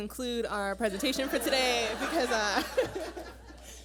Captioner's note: laughter